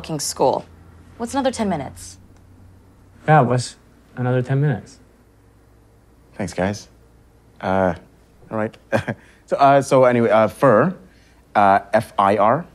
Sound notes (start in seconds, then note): 8.8 laughs